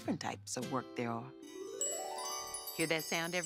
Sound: chimes

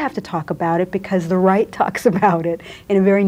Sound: laughs

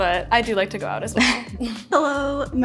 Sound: chuckle

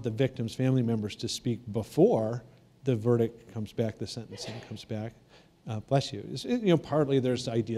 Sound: sneeze

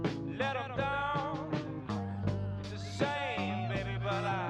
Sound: men cat-calling, whistling

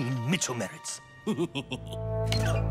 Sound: snickering

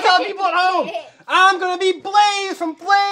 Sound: laughs

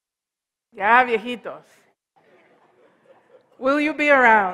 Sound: foreign language

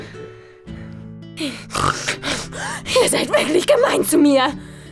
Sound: grunts

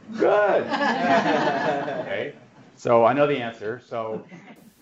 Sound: laugh

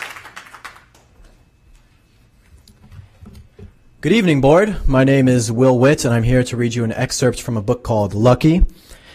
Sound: applause

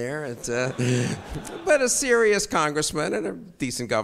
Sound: audience laughs

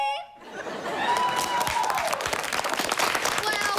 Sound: cheering

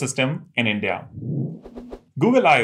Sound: sound effect

